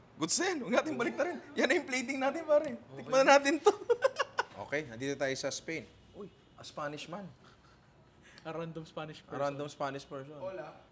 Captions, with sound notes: That'll do. That's the plating itself. Let's try it. [laughs] Okay. We are now in Spain. Oh, a Spanish man. -A random Spanish person. -Hola.